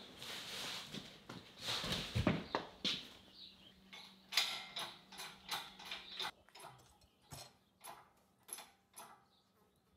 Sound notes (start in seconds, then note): 4.4 jack clinking